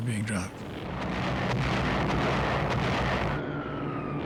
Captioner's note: explosions